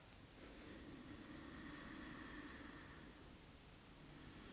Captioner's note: long inhale; long exhale